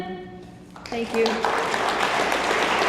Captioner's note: hands clapping